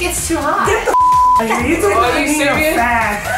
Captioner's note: beep